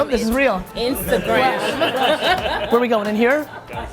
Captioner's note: group laughing